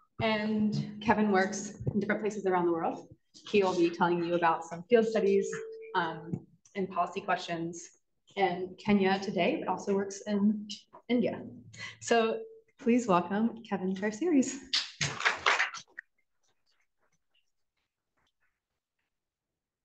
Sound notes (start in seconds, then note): 15.0 audience applauds